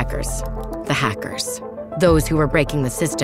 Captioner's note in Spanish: sonido de tecleo